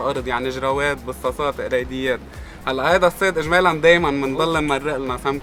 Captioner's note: in Arabic